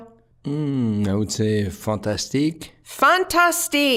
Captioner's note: with French accent